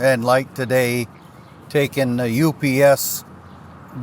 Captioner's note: birds chirp